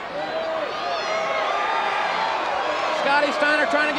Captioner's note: audience cheers